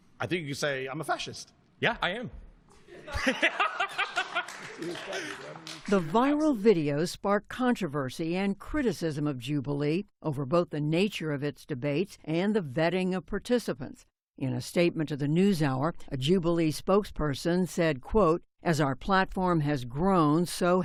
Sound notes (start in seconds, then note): 2.9 laughter